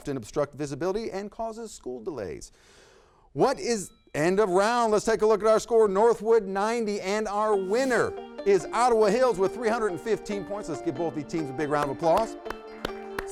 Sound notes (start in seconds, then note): 3.5 bell dings; 11.6 group clapping